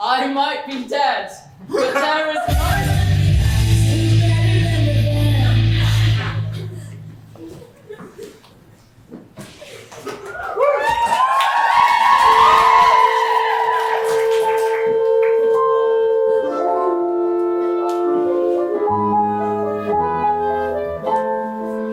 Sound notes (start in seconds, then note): 7.7 audience cheering